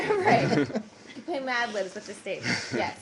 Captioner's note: laughter